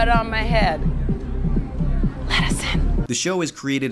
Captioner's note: whispers